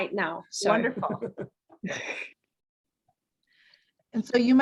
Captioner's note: laughs